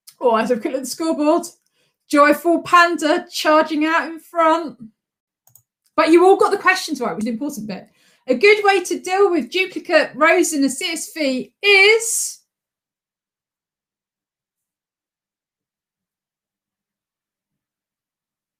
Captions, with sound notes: Oh, let's look at the scoreboard, JoyfulPanda charging out in front. (mouse clicks) But you all got the questions right, which was the important bit. A good way to deal with duplicate rows in a CSV is?